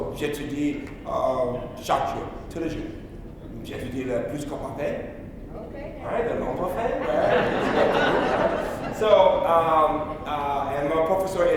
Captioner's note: speaking in French